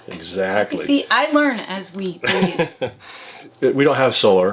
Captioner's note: laughs